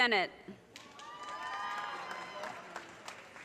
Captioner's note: audience cheers and applause